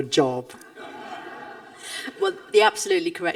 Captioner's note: audience laughing